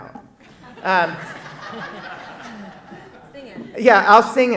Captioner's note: audience laughing